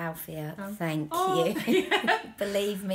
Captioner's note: laughter